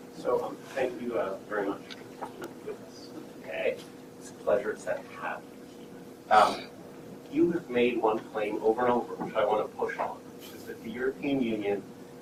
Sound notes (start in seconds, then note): 6.3 coughing